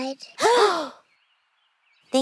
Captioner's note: all gasping